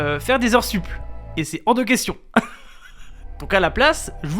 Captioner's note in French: Rire